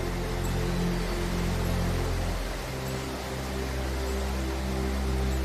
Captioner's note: roaring water